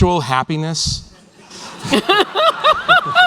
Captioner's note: laughter